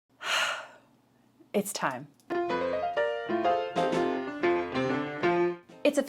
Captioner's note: sigh